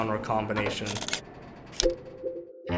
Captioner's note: button clicks; quirky music